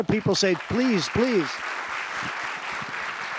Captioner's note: applause